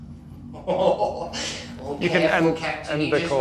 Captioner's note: laughing